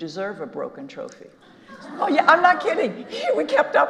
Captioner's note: audience laughing